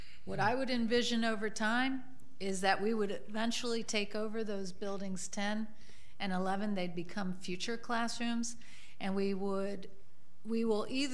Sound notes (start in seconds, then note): none